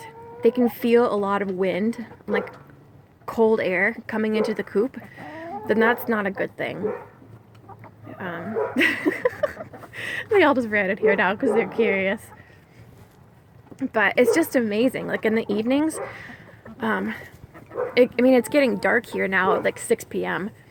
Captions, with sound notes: and they can feel a lot of wind like cold air coming into the coop then that's not a good thing (laughing) They all just ran in here now, because they're curious. But it's just amazing. Like in the evenings I mean, it's getting dark here now at 6pm